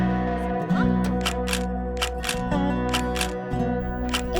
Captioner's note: camera snaps